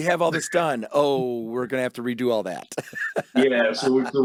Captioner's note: laughs